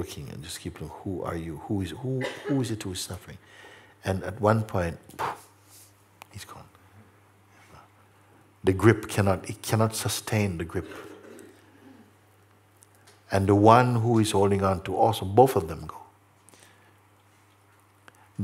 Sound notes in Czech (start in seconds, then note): 3.5 prudký výdech